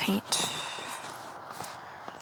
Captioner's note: sigh